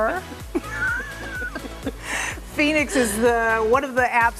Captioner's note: laughs